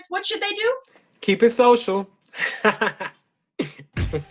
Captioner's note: laughs